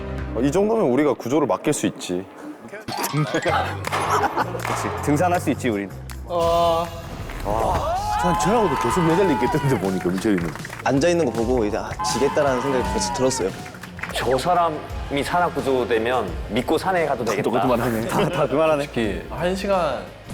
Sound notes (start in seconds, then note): 3.1 laughing; 3.8 clapping in agreement